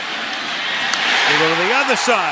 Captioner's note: cheering